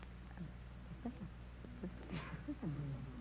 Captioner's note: whispering